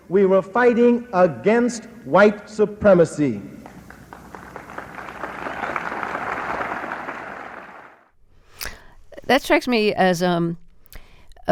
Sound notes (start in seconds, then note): 3.6 applause